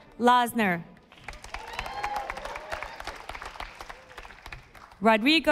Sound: audience applauding

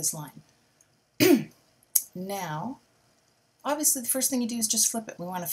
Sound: coughs

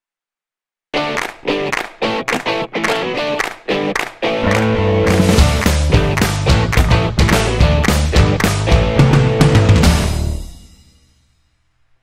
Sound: claps

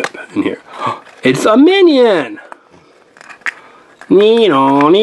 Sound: gasps

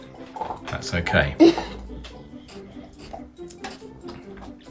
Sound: chuckles

